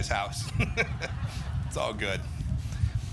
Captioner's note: laughter